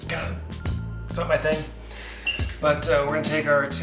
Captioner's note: groans